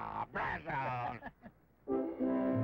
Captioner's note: laughing; triumphant orchestral music